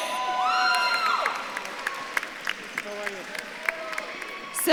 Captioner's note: audience claps and cheers